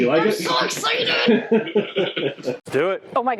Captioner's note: laughing